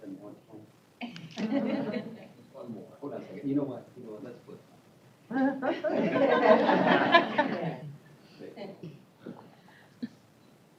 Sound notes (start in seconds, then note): 1.5 indistinct chatter; 5.6 laughter